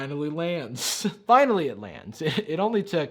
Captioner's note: laughs